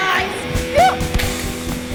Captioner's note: yelps